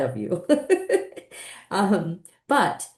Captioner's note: laughing